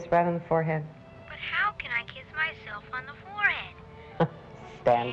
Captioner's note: on phone